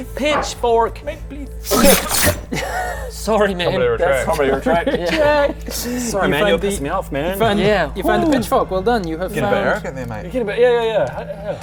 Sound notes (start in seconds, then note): 1.6 shing!